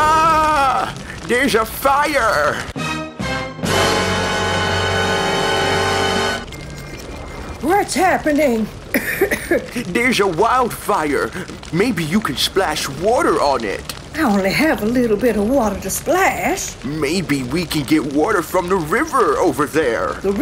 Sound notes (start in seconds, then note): 2.5 dramatic music; 8.9 H2O coughing